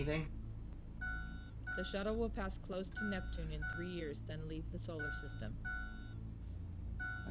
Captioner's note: computer voice